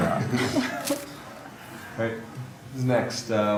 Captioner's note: audience laughs